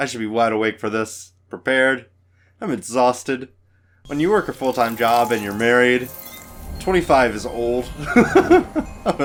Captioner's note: laughs